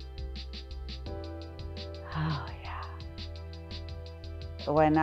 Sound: sighs

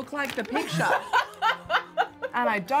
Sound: laughing

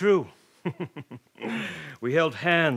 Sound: laughs

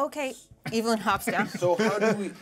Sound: speaker laughs

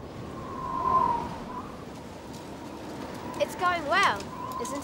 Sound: wind Gusting

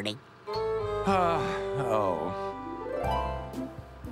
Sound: sighing

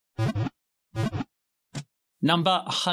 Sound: Pokéball wiggle sound

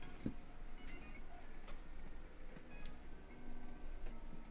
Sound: mouse clicking

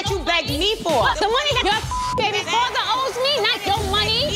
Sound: beep

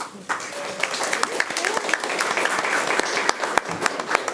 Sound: all applauding

